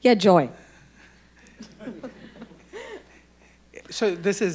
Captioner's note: audience laughing